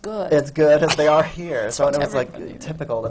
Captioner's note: laughs